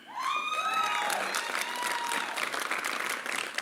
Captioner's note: applause